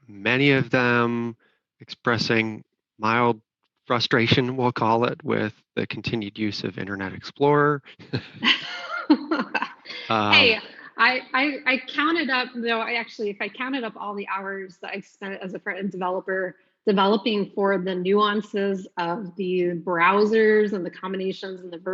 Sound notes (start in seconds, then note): 8.0 laughs